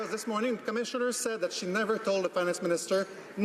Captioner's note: some Applause